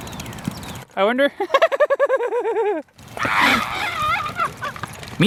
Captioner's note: hysterical laughing